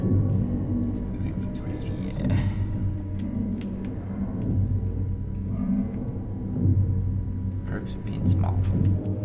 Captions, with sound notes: - (muttering softly) - Yeah. - The perks of being small.